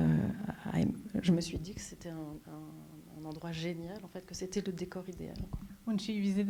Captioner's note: speaking French